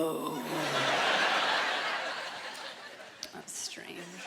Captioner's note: gravely voice; laughter